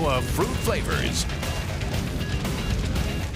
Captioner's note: crowd cheering